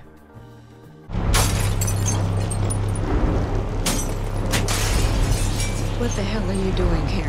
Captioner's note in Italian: Vetro che si Infrange